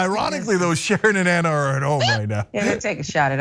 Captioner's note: laugh